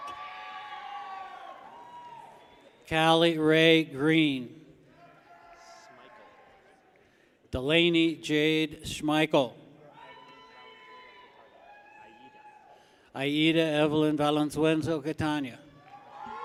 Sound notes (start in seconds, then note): 0.0 people cheer; 4.9 people cheer; 9.8 people cheer